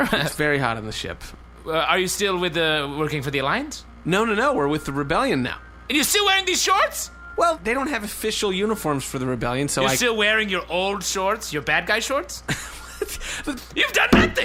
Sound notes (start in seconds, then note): 0.0 laughs; 5.9 shouting in disbelief; 10.1 increasingly shrill; 12.4 Pleck laughs in bewilderment; 14.1 pounds fist on table